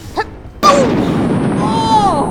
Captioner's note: boom